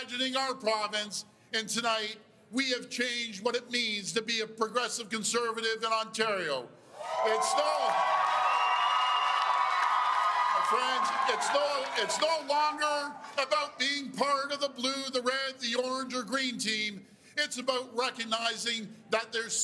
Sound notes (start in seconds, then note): 13.2 cheers and Applause